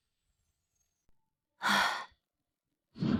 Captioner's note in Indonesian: Menghela napas